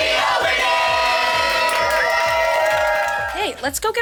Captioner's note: cheering